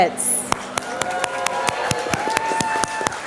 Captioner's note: applause